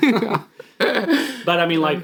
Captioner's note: laughing